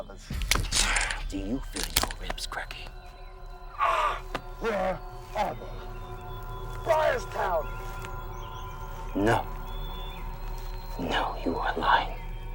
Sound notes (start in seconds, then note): 3.8 soldier groaning; 4.1 intense music continues